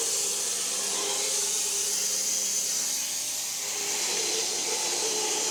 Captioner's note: saw buzzing continues